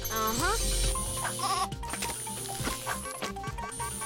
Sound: buzzing; bleating; frantic beeping

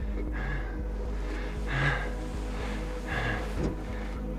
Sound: taking deep breaths

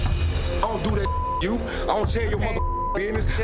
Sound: dramatic music; beep

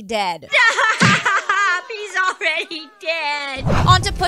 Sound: crying

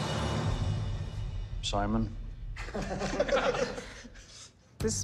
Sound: laughter

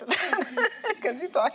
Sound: laughs

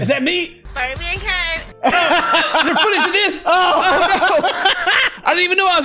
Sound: laughter

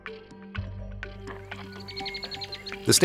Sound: birds chirping and trilling

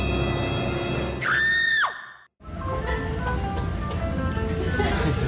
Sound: a scream

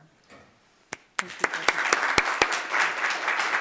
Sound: applause

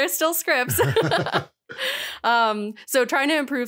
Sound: laughter

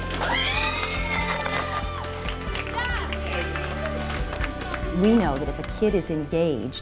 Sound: cheers

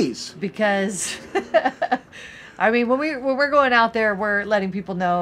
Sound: laughs

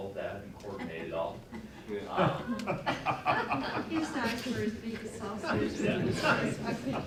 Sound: laughter

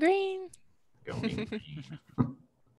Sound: laughing

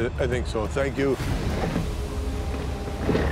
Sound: machinery whirring

